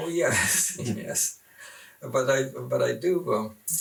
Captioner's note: laughs